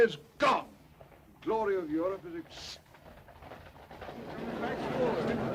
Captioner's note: hooves clattering; anxious chatter